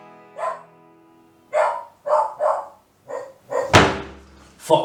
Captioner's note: barks